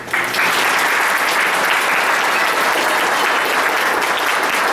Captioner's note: applause